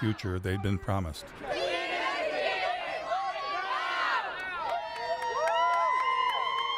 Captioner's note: crowd shouting and cheering